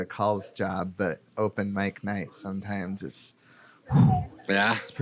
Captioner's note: exhales